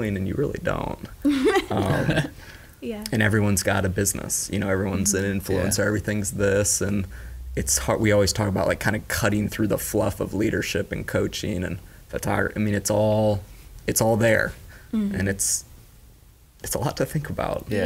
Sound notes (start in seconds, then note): 1.3 laughing